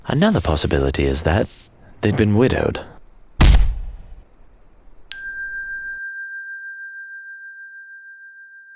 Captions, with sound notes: Another possibility is that... they'd been widowed. (bell dings)